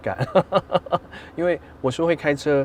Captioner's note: laughs